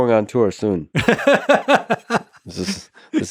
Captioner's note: laughing